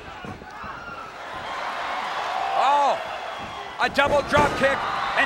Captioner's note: applause